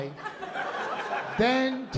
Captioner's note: laughter